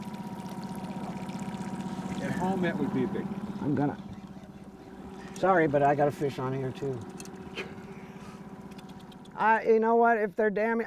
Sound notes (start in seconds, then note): 4.1 chuckling; 9.0 chuckling